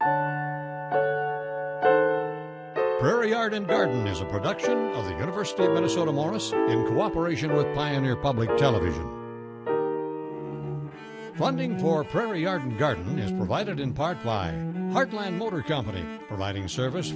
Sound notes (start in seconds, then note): 0.2 piano music; 3.1 male Voice